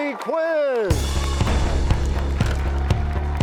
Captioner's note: crashing sound